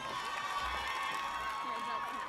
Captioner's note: audience cheers